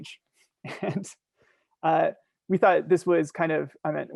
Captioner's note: chuckling